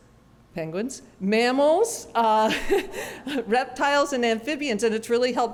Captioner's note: laughter